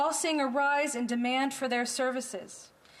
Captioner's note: speaking French